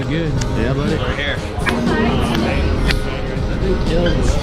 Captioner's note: high-fives